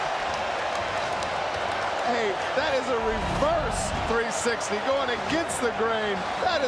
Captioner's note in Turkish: coşkulu tezahürat